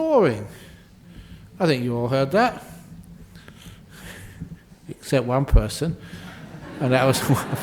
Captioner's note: laughter